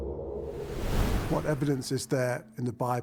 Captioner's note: wind whooshing